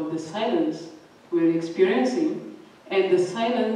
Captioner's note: none